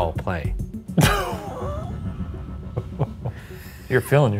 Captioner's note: laughs